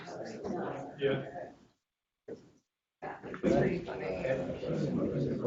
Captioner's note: students chattering